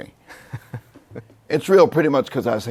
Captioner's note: laughs